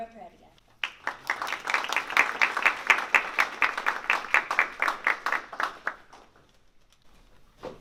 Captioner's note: applause